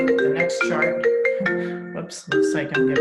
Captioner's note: phone rings